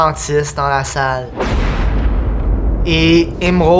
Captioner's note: loud clap of thunder